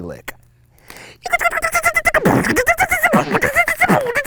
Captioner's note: beatboxing